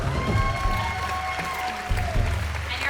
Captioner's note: cheering